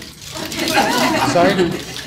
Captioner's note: audience laughter